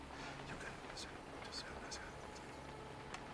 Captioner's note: whispering